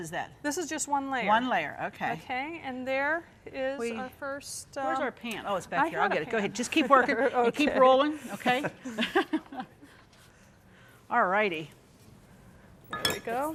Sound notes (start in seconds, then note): 8.6 laughing